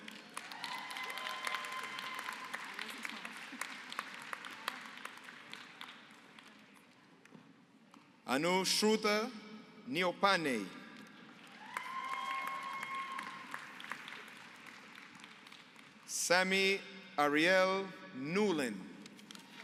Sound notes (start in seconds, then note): 0.0 applause; 11.3 applause